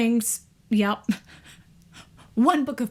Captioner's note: laughs